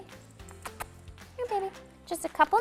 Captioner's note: lips smacking